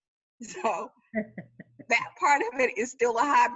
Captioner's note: laughing